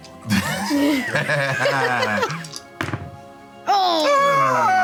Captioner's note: laughing